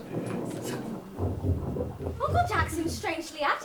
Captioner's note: items rustling